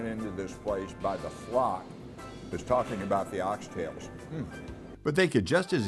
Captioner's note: humming